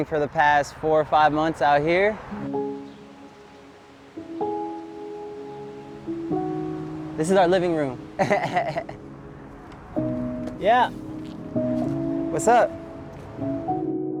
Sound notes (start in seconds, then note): 2.5 soft music; 8.1 laughing